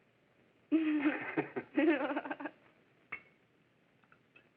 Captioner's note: both laughing